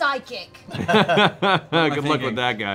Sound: laughter

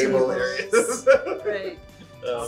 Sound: laughing

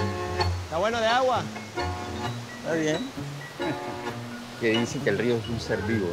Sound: speaking in foreign language

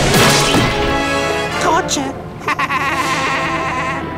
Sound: laughing

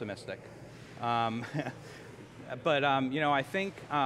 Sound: chuckles

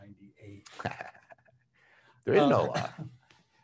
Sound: laughs sarcastically

